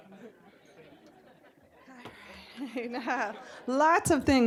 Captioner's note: scattered laughing